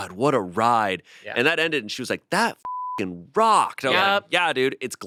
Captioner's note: beep